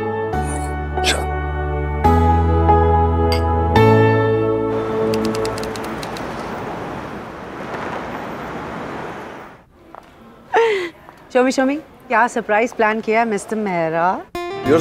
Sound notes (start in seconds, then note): 3.3 glass tinkling; 10.4 laughs